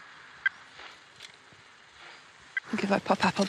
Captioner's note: equipment beeping